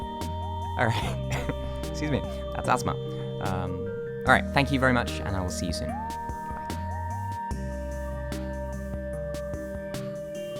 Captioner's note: coughing